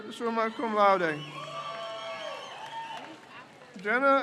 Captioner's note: crowd cheers